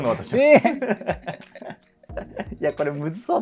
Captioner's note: laughing